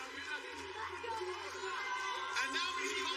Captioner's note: chanting